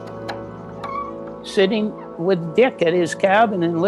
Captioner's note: door opens